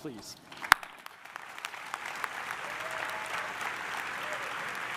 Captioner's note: audience applauding